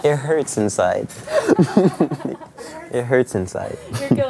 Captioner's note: laughing